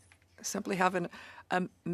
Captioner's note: speaking in French